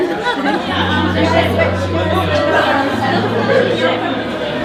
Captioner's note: laughs; party chatter